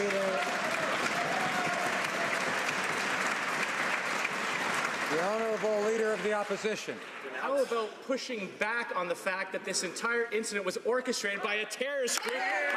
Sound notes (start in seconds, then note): 5.4 some Applause